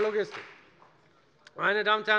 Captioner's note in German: Beifall bei der FDP